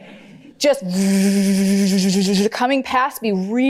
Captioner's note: shaky buzzing